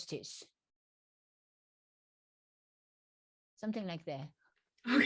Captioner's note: laughs